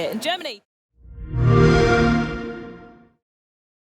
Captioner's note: xbox sound